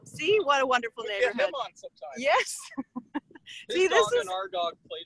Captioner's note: laughing